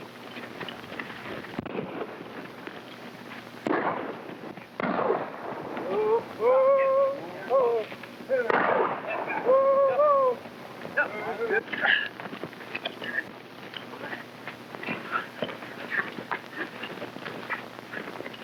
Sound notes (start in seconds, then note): 1.7 gun firing; 4.9 cowboys whooping; 10.9 men grunting